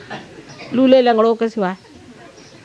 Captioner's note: laugh